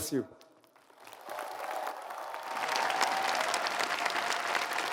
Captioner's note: applause